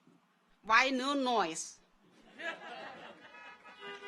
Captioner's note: audience laughs; car horns honking